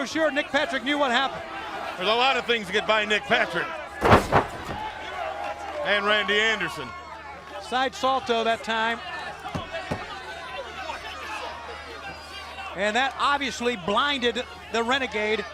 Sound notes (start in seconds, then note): 11.6 crowd chatter